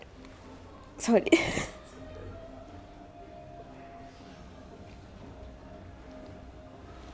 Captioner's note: she cries profusely